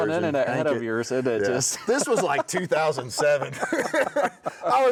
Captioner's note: both laughing